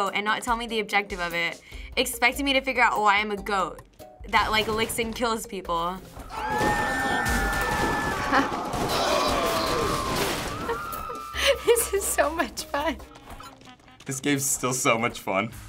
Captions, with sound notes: and not tell me the objective of it, expecting me to figure out why I'm a goat that licks and kills people. (people scream) This is so much fun. This game's still so much fun.